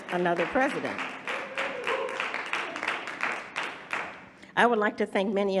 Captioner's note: audience applauding